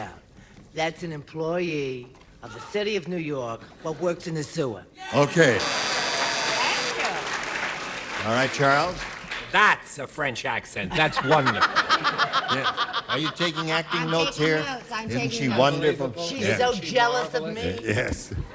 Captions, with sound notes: AND THEY WORKS THEIR WAY DOWN. THAT'S AN EMPLOYEE OF THE CITY OF NEW YORK, THAT WORKS IN THE SEWER. OKAY. THANK YOU. ALL RIGHT, CHARLES. THAT'S A FRENCH ACCENT. THAT'S WONDERFUL. [LAUGHTER] ARE YOU TAKING ACTING NOTES HERE? ISN'T SHE WONDERFUL?